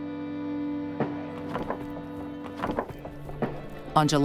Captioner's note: boards knocking